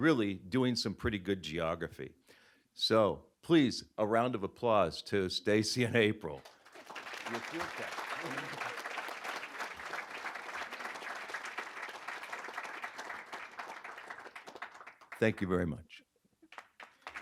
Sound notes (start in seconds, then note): 6.3 applause